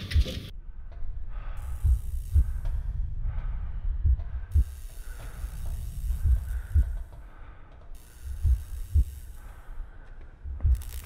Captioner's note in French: Bruits bas de machine, battements de coeur et respiration